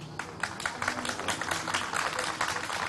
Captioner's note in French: Applaudissements